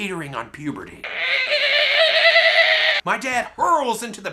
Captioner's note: growl